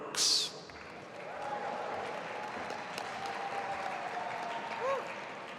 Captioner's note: audience applauding